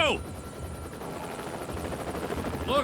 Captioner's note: helicopter blades whirring